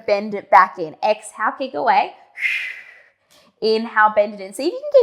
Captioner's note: breathing sharply